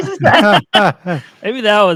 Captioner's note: all laughing